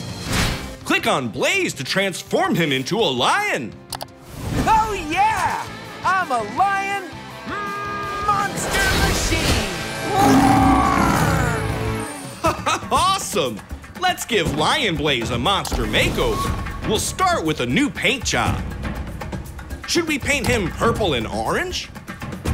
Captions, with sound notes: Click on Blaze to transform him into a lion. Oh, yeah, I'm a Lion Monster Machine! [roaring] [chuckles] Awesome. Let's give Lion Blaze a monster makeover. We'll start with a new paint job. Should we paint him purple and orange?